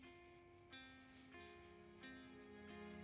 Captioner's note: none